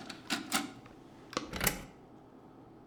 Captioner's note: the sound of CD inserting; the sound of cover closing